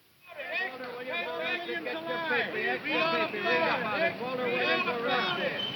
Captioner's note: newspaper boys shouting